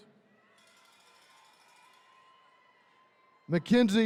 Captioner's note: attendees cheering